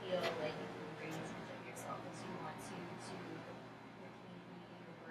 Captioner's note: speaking softly